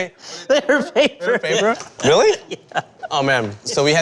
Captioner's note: laughing